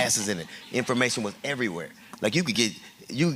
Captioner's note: laughter